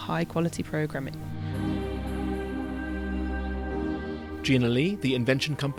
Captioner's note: voiceover